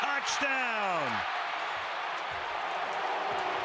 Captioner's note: crowd cheering